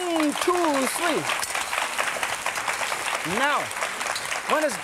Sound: audience applause

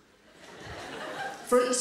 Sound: audience laughs

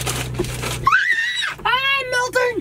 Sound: screams

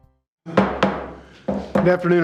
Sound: gavel banging

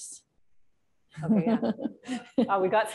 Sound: laughter

